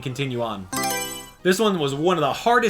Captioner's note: Mario Selection Sound